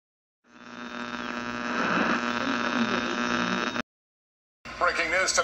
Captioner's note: radio static plays